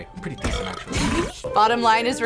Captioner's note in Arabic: تجشؤ الشخصية